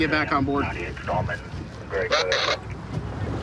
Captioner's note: radio communication